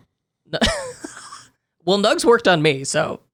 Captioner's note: laughing